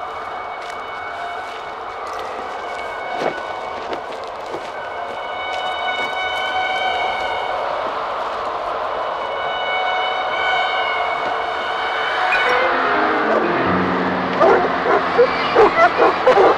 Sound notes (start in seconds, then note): 0.3 wind howling; 13.2 wind blowing swiftly; 14.3 dogs barking; 16.3 eerie ominous music